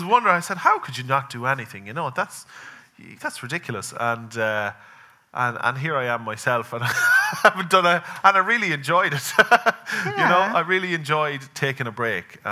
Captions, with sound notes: And I was wondering, I said, "How could you not do anything? You know, that's ridiculous." And here I am myself (laughing) and I really enjoyed it. I really enjoyed taking a break.